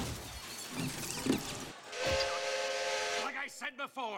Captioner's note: train Whistle Blows